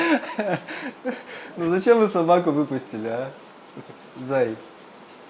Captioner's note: laughter